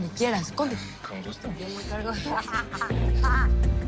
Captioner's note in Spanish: Risas